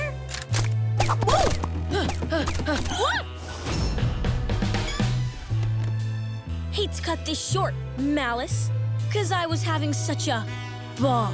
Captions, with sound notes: Whoa! [panting] Wha- Hate to cut this short, MALICE, cause I was having such a... ball.